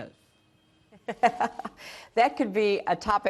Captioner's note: laughter